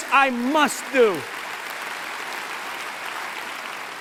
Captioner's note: applause